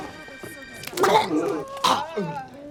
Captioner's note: customer retching continues